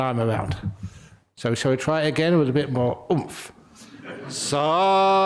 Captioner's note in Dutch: lachen